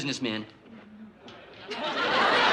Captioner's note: laughter